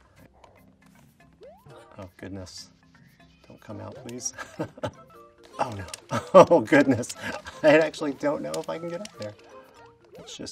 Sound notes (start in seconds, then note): 4.2 laughing